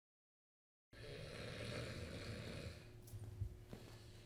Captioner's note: snoring